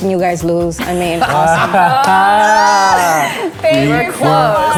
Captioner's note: guests laugh